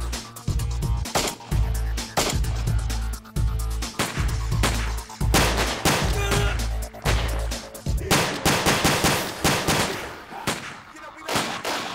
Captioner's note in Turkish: si̇lah sesleri̇